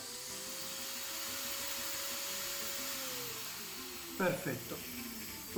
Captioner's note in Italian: rumore del motore elettrico